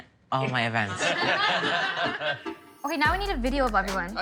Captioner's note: laughter